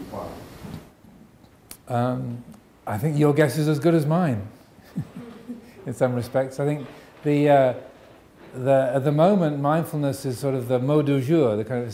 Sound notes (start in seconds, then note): 4.8 chuckles